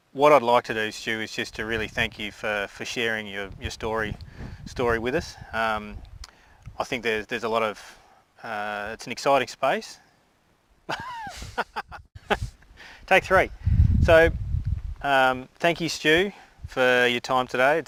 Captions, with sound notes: But what I'd like to do, Stu, is just to really thank you for sharing your story with us. I think there's a lot of-- It's an exciting space. (laughs) Take three. So, thank you, Stu, for your time today.